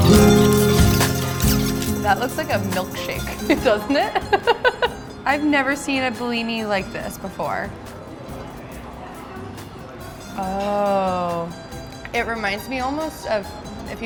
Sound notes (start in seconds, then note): 0.1 upbeat music; 3.2 laughs